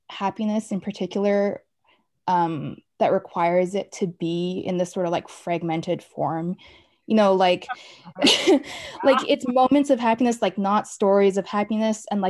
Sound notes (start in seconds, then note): 7.6 laugh